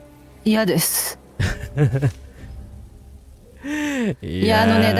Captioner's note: laughter